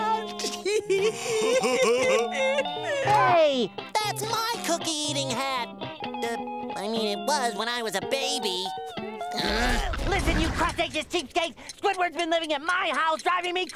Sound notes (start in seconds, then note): 0.3 laughing; 9.3 groaning